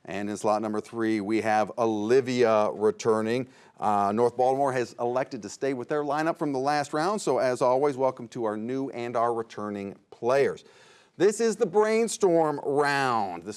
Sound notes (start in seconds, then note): none